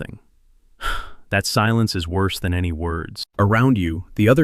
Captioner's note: sighs